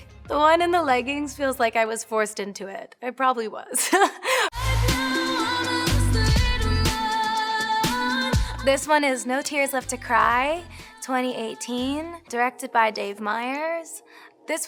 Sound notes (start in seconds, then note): 3.8 laughs